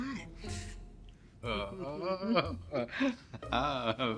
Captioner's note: Ian laughs